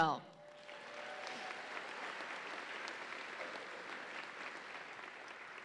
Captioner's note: audience applauds and cheers